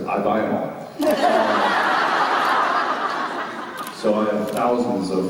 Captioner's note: laughter